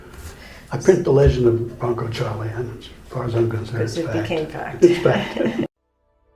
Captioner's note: both laugh